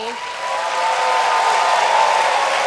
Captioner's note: applause